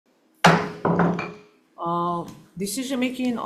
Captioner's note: gavel bangs